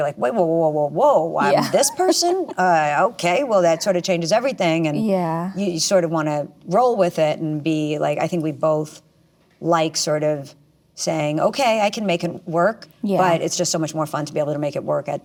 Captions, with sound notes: You're like, wait, whoa, whoa, whoa, whoa, whoa, I'm this person? - Yeah. (laughs) - Okay, well, that sort of changes everything, and you sort of wanna roll with it and be like, I think we both like sort of saying, okay, I can make it work. - Yeah. - But it's just so much more fun to be able to make it work